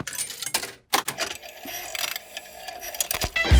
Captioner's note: clicks, whirring; heavy metal music plays